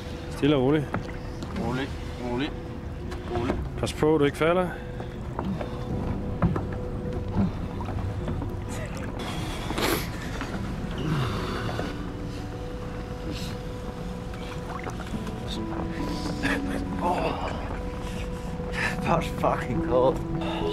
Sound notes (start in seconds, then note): 11.0 shivering, breathing hard